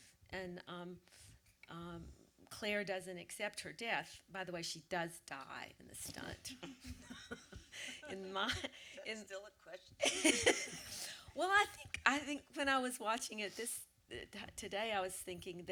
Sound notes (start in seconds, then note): 6.5 light laughter; 10.0 laughter